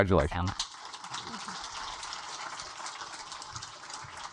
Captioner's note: audience applaud